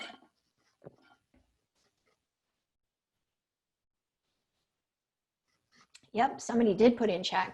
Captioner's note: silence